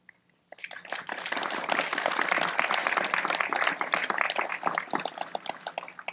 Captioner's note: applause